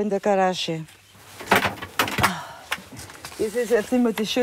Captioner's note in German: Klappern, sie seufzt